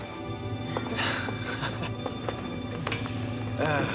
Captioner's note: chuckling